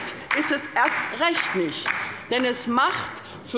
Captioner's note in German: Beifall bei der LINKEN